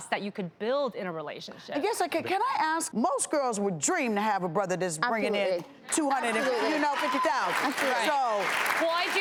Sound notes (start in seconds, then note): 6.2 audience cheering